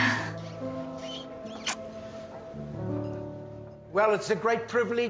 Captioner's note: sighs; kiss smacking